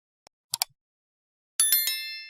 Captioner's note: mouse click